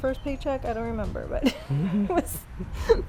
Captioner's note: laughing